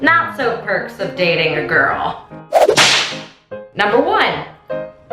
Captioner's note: whooshing